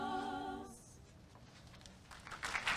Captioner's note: applause